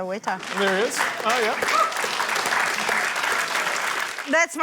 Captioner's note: applause